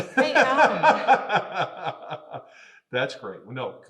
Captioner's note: laughing